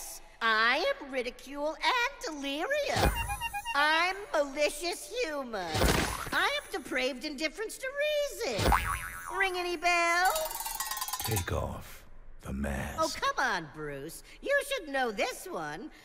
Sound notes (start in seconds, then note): 2.5 clown horn honks; 5.7 splat; 7.9 spring recoils; 10.3 cowbells clang